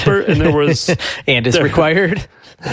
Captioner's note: laughs